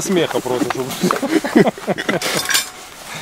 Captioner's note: laughing